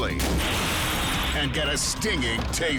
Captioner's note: object clunks